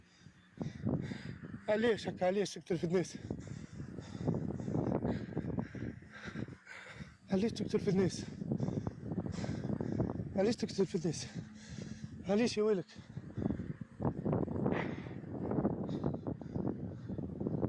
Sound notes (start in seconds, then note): 1.8 holidaymaker speaks foreign language; 7.6 holidaymaker speaks foreign language; 12.8 holidaymaker speaks foreign language